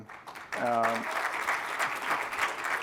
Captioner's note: applause